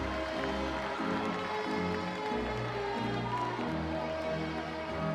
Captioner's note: audience chattering